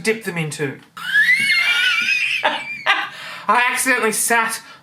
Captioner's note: laughing